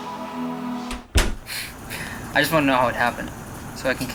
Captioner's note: laughs